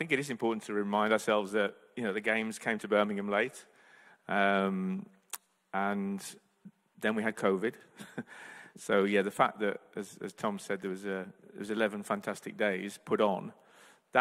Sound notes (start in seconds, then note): 8.0 chuckles